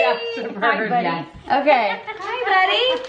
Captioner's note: chuckling